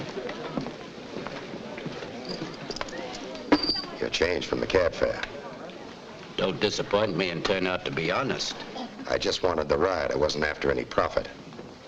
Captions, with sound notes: (coins clank) - Your change from the cab fare. - Don't disappoint me and turn out to be honest. - I just wanted the ride, I wasn't after any profit.